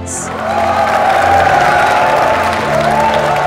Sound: all cheering, clapping

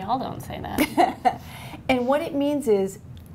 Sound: laughter

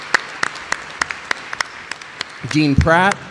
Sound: applause

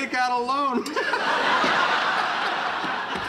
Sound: laughing

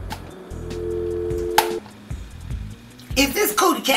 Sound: engaged tone

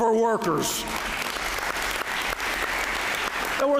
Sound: applause

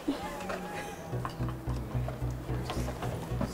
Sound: both laughing

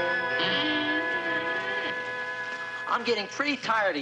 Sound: creaking

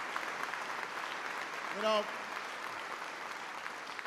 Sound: applause

